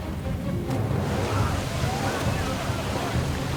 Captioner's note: water rushing